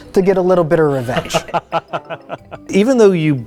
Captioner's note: everyone laughs